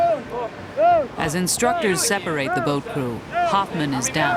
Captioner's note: voiceover